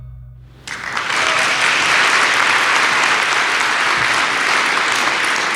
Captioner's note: audience cheering and applauding